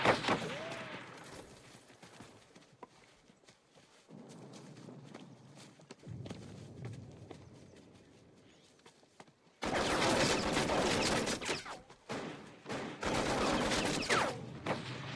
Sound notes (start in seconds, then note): 9.6 machine gun fires